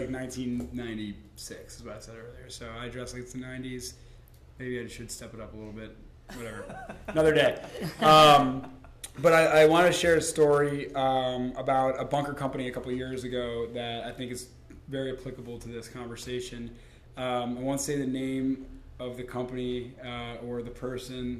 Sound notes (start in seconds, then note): 6.3 laughter